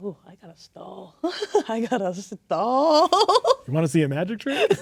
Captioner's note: laughing